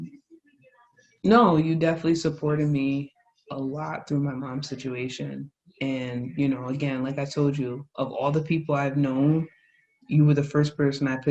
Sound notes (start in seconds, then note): none